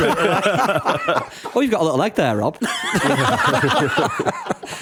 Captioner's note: laughter